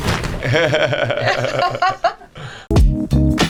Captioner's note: laughing; groovy music